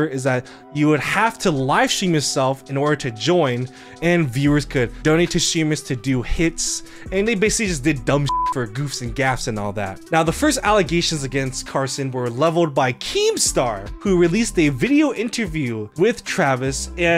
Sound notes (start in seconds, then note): 8.2 beep